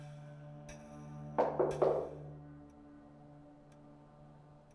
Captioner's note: door knocking